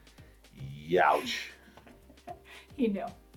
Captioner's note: laughs